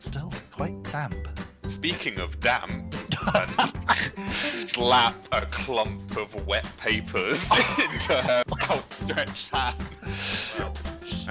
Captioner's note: laughter